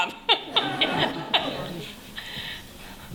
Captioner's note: laughter